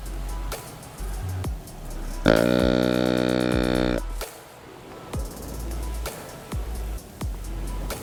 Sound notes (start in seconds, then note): 2.2 deer call bellows